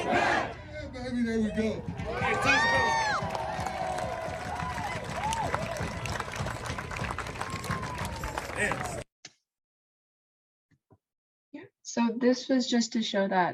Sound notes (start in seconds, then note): 0.0 crowd; 4.5 crowd; 7.3 crowd cheering